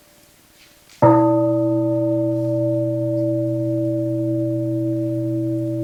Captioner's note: bell rings